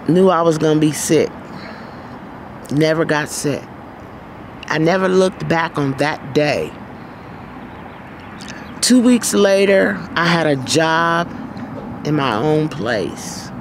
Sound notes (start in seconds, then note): none